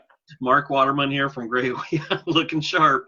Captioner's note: laughs